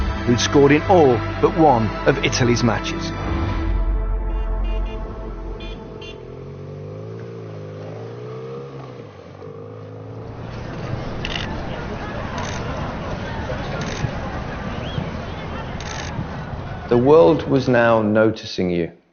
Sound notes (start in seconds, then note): 4.3 horns honking; 6.9 motorbike humming; 11.8 cameras clicking